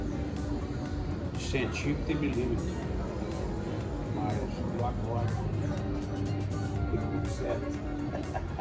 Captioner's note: laughs